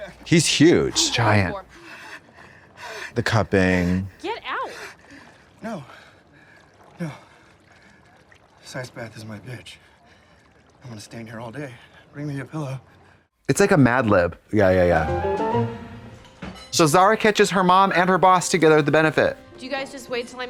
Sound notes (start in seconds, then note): 0.8 Chris shivers; 15.0 bright chime